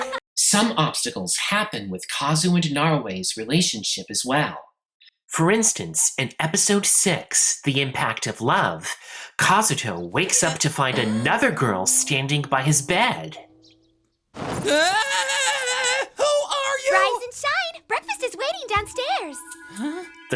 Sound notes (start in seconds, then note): 14.4 screaming